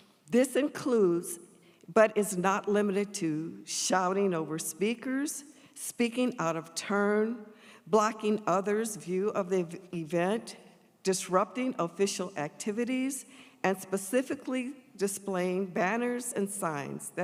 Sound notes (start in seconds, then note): none